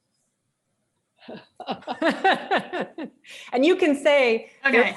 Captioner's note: both chuckle